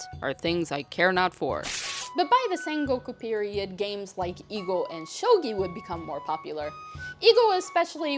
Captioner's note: ripping paper